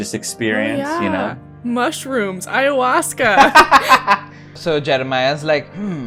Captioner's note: laughter